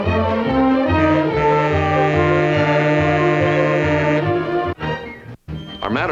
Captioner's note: monorail horn